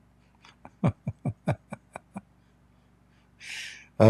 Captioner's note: Ketawa